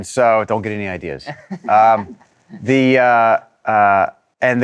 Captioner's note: laughs